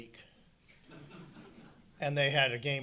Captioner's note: audience chuckling